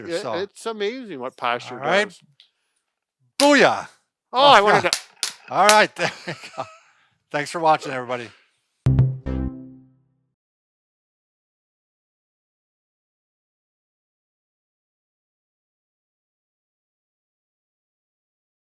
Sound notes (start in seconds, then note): 3.4 slap; 5.7 laughing; 8.9 melodic tones